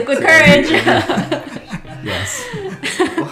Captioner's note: laughs